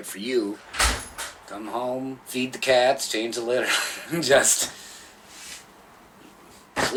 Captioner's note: laughs